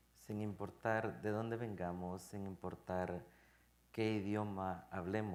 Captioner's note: speaking in Spanish